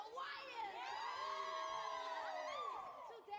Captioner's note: all scream